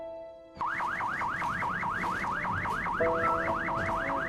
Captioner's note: sirens blaring